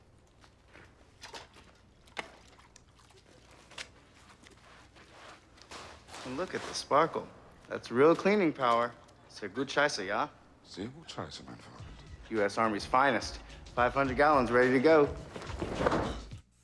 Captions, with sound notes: (liquid splashes) Look at the sparkle. That's real cleaning power. Sehr gut scheisse, ja? Sehr gut scheisse, mein freund. U.S. Army's finest. 500 gallons ready to go.